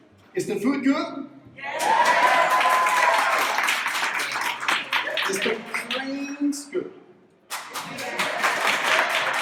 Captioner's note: claps